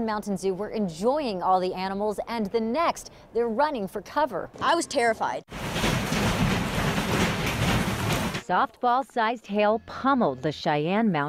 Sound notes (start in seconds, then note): 7.3 water splashing